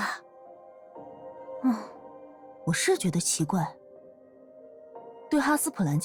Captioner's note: sighs